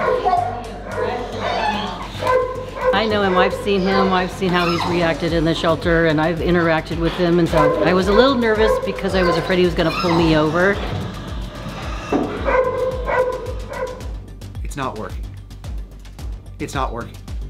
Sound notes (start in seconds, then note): 0.0 raucous barking; 12.3 barking